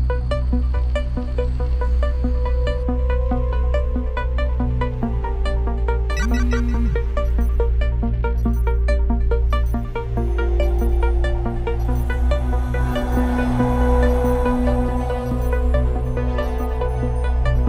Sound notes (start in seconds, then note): 0.2 haunting music; 6.2 notification alert; 7.5 haunting music